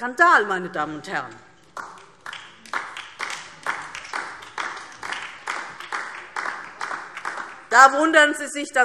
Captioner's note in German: Beifall DIE LINKE